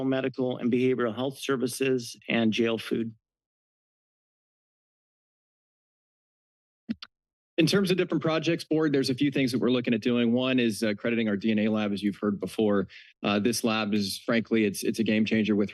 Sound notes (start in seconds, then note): 3.7 silence